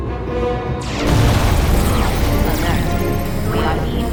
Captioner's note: alarm sfx